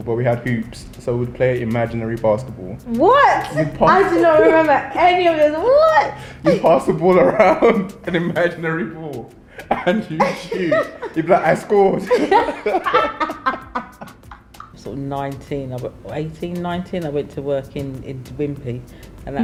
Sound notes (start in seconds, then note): 12.5 laughter